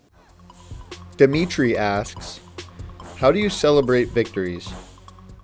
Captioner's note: voiceover